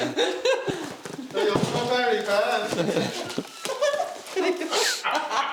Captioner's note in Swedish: skratt